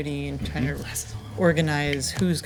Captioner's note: whispering